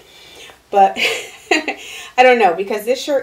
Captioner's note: laughing